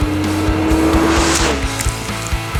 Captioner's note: motorcycle revving over music